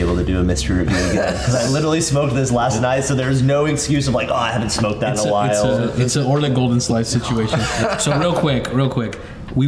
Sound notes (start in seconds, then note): 7.3 laughs